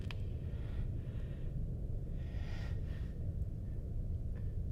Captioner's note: heavy breathing